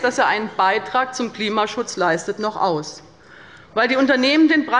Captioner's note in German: none